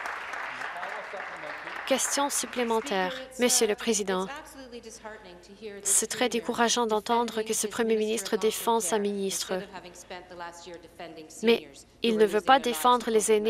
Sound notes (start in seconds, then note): 1.6 some Applause